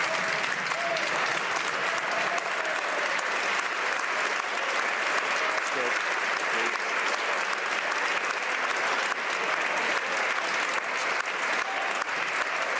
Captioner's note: some Applause